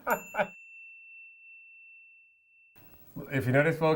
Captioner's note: ding